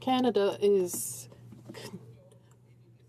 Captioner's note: speaking in french